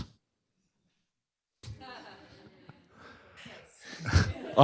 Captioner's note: laughter